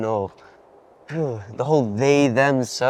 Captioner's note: Saeed grunts